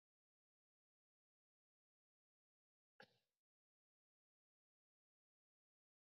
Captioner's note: audio cut off